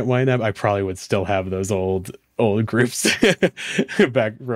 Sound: laughs

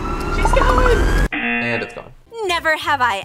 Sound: tense music; buzzer

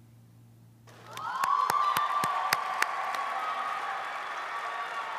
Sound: audience applauding

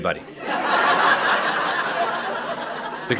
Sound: laughter

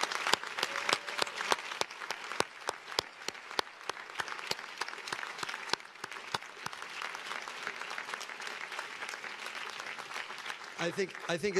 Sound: cheers and applause

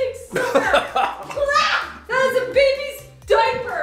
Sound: laughing

